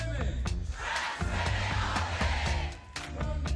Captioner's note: crowd